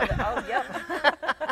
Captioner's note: laughing